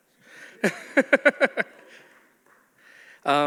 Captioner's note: laughs